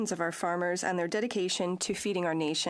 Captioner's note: speaking French